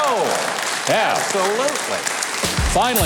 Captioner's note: audience clapping